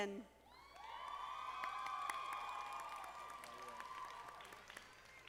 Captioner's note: audience applauding